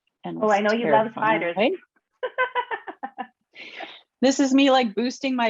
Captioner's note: laughs